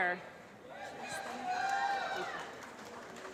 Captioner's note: applause